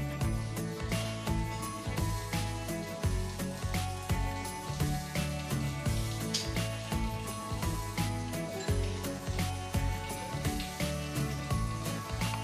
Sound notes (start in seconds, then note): none